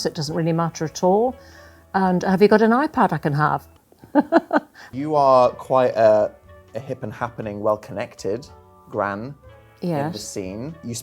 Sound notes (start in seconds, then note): 4.1 laughing